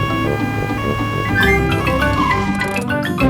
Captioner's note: siren wailing